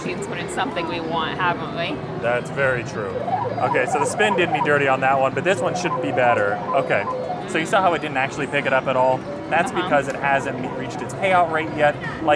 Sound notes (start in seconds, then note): 3.1 machine bleeps